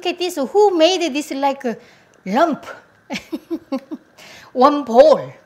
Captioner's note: chuckling